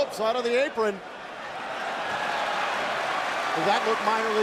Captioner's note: crowd cheering